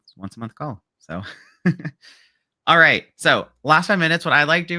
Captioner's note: laughs